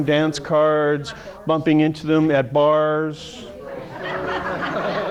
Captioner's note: audience laugh